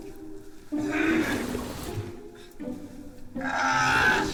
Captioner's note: Merrill grunts